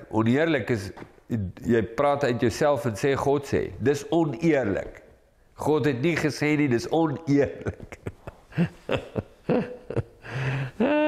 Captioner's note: laugh